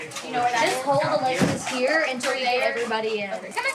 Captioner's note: chatter